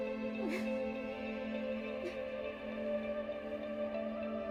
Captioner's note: Rachel crying